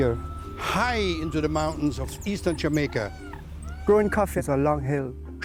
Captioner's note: birds singing